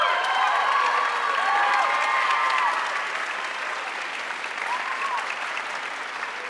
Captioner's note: audience cheering and applauding